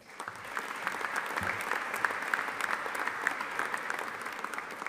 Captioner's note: audience applauding